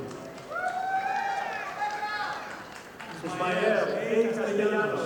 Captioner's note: audience applauding